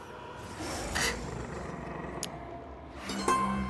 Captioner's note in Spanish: rugidos